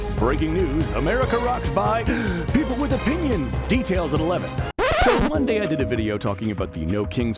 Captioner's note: gasp